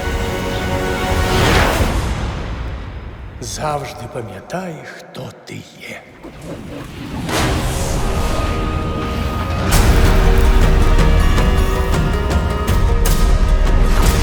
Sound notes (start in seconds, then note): 6.1 wind gusting; 9.6 suspenseful music playing